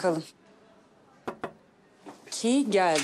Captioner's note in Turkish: Kapı vuruluyor